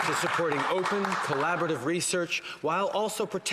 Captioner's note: some Applause